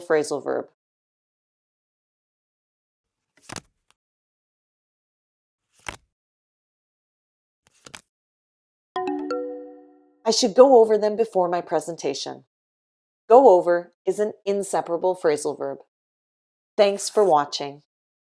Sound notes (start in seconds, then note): 3.3 paper shuffling